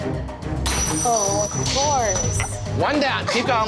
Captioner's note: glass breaking